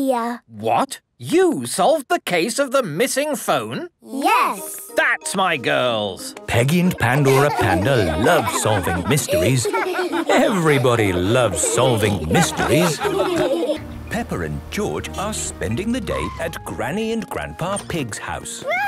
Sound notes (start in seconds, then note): 7.0 laughter